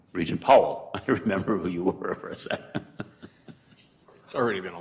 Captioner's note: laughing